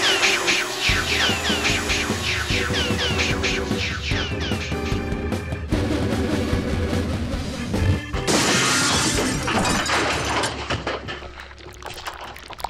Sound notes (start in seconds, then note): 5.3 whirring; 8.2 crash, clattering